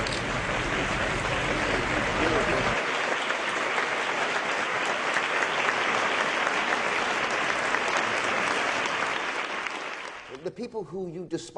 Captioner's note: clapping